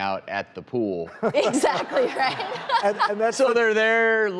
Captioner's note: audience laughs